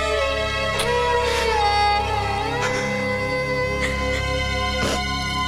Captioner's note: Sobbing